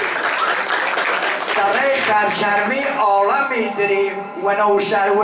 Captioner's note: he is reciting a poem